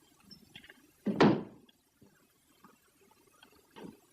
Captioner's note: stamps floor